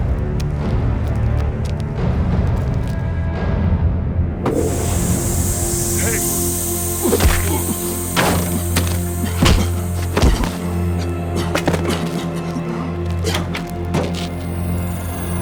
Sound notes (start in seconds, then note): 4.4 bag thuds; 8.1 staff thudding; 11.9 tense music continues